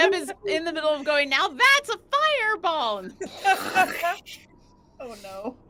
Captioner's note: mouth exploding air